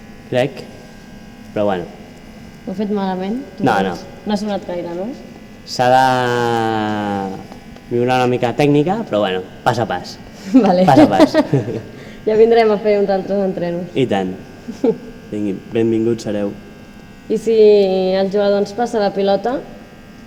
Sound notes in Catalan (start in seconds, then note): 10.4 risa